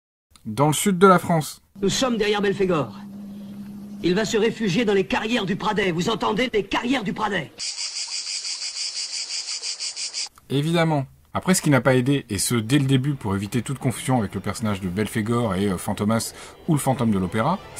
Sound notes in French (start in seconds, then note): 8.8 criquets.MP3